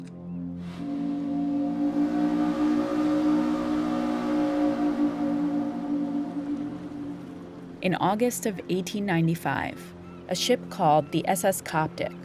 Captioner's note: soundbite of steamship horn sounding